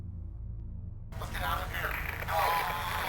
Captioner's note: radio voice